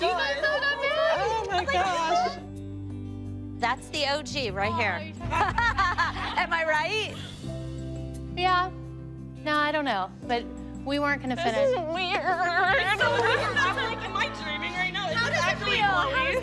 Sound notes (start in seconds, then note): 5.3 laughs